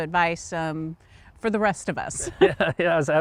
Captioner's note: both laughing